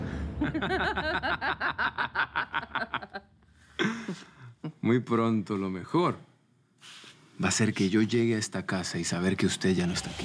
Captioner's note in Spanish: Risas